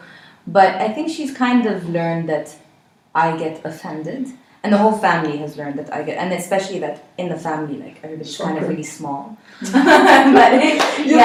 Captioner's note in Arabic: ضحكات